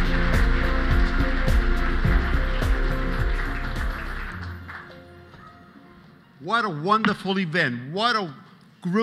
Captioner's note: applause